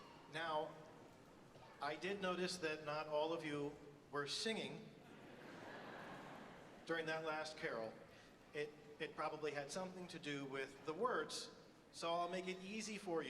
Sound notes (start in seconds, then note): 5.1 audience laughs